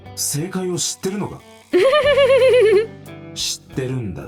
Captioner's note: chuckles